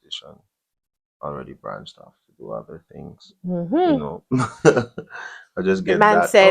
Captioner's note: laughter